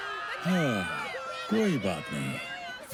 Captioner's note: sighing